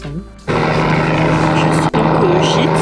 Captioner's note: helicopter noise